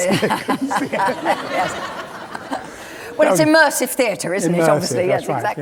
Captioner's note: laughter